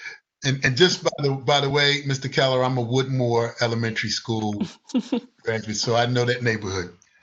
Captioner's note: laughter